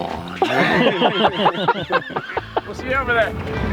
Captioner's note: all laughing